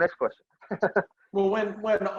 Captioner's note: laughs